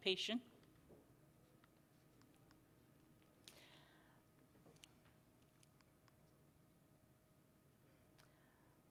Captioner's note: silence